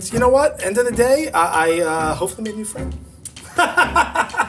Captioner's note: laughs